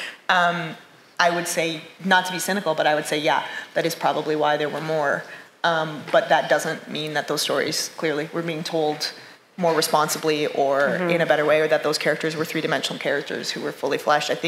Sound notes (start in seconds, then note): none